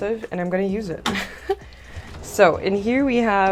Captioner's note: laughter